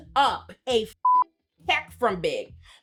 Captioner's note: beep